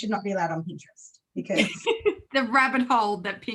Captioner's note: laughs